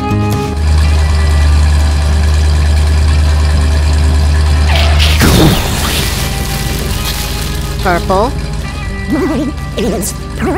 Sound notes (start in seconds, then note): 2.2 engine noise; 2.2 explosion; 2.2 skid